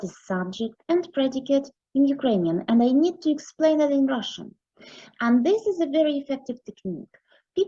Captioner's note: in Ukrainian